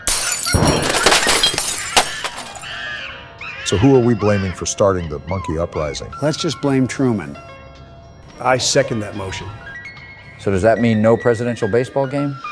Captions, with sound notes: [Glass shattering] [Primate screeches] So who are we blaming for starting that monkey uprising? Let's just blame Truman. I second that motion. So does that mean no presidential baseball game?